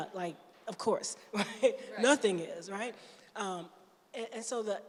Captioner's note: chuckles